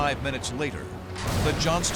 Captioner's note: explosions